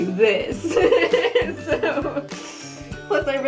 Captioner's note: laughing